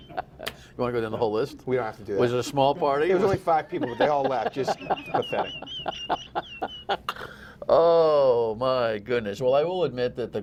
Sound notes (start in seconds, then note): 2.8 laughter